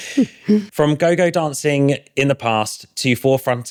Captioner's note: laughs